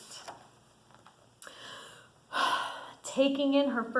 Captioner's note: breathes loudly